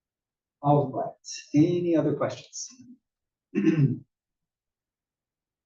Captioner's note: cough